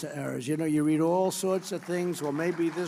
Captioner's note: applause